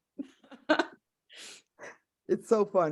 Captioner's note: chuckling